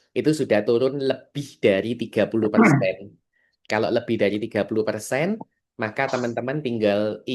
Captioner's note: berdehem